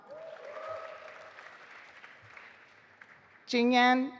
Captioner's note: audience applauding